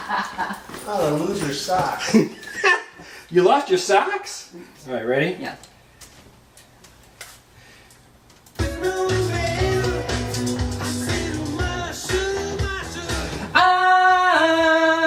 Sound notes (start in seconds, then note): 1.6 laughing